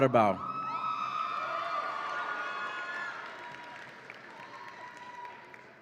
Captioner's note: audience applauds and cheers